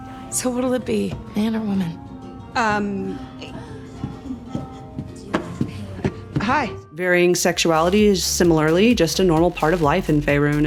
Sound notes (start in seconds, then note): 3.9 footsteps; 5.7 stumbling steps